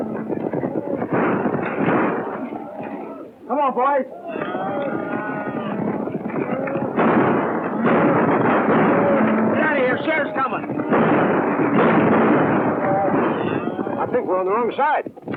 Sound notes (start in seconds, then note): 6.9 gunshots